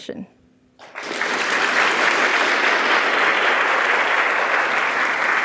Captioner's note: audience applauding